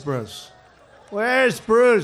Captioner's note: applause